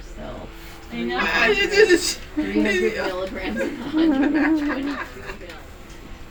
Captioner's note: laughter, indistinct conversation